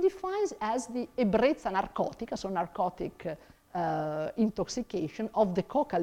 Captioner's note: speaks in foreign langauge